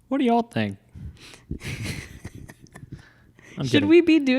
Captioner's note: laughing